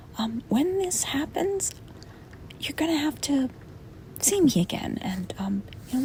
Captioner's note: none